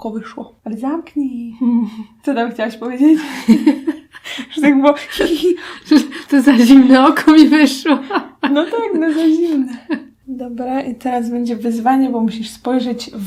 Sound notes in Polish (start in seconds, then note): 7.8 śmiech